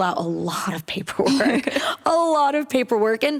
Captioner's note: laughter